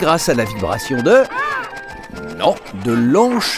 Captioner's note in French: cris de pingouins